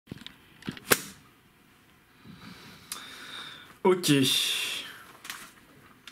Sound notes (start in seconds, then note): 0.8 slap